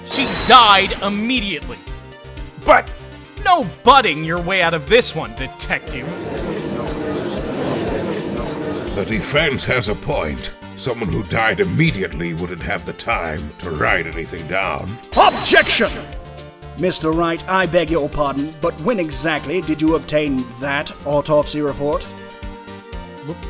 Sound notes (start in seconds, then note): 7.6 gallery chattering